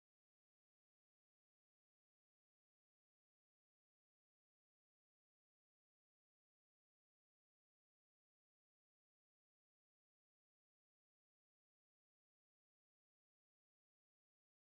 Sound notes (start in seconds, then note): none